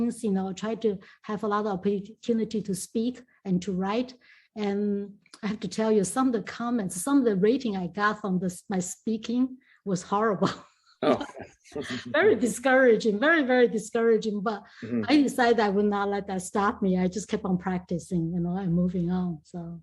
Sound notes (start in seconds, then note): 11.0 laughs